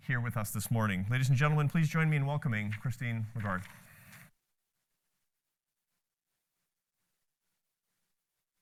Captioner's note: applause